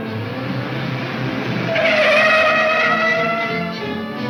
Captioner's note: tires squealing